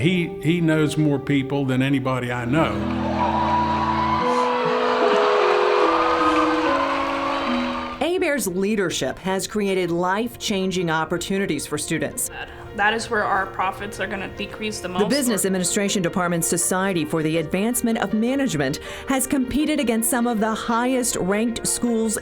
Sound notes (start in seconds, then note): 2.8 cheering